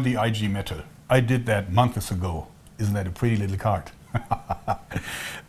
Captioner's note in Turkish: kahkaha